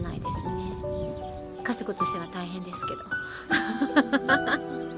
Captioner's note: laughs